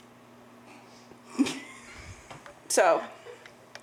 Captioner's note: laughs